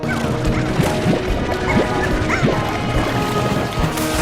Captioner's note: creatures squealing